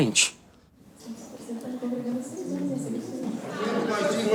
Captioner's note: people talking